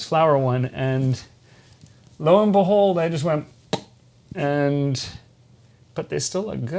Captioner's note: pop